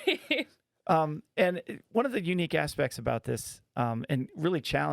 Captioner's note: laughing